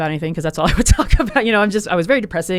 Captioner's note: laughs